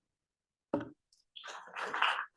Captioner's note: applause